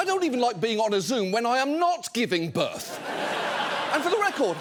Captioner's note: audience laughing